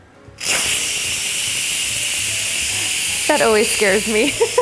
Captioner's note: pressure release sound